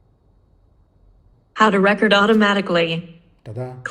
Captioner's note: AI voice